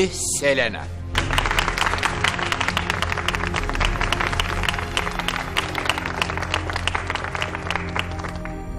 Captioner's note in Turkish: alkiş sesleri̇